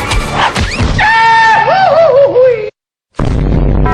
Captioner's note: Goofy's famous yell